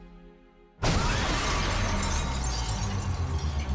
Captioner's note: explosion